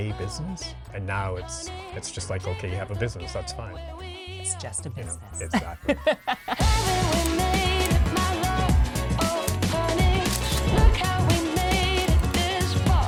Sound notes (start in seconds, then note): 5.5 laughing; 7.5 lively music